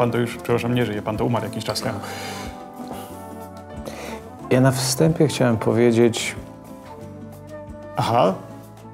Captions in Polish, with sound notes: pan to już, przepraszam, nie żyje, pan to umarł jakiś czas temu. (westchnienie) Ja na wstępie chciałem powiedzieć... Aha?